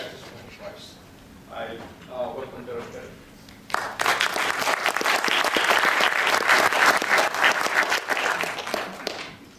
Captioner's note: applause